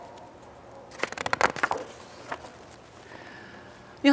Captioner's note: paper rustling